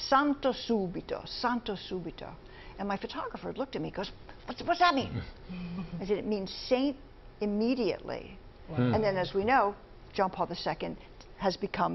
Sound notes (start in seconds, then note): 6.9 speaking italian